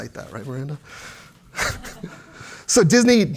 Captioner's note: laughs